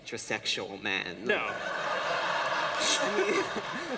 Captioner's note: laughter